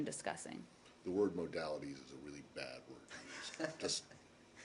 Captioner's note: laughter